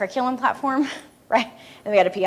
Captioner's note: laughs